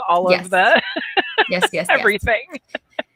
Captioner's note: laughs